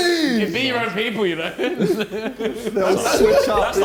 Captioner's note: giggles; men chattering; men laughing